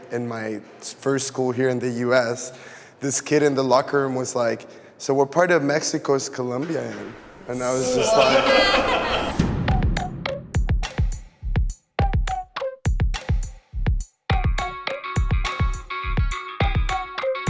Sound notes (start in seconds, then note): 7.5 participants laughing; 9.7 light upbeat music